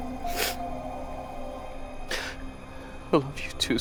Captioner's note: Nathan sniffles